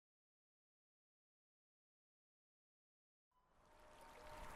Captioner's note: water trickling, wind howling